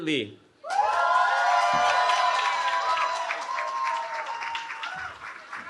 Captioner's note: cheering